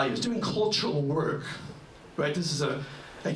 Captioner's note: none